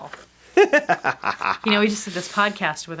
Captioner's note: laughs